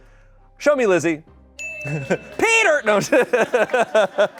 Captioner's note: bell dings; audience cheering; audience laughing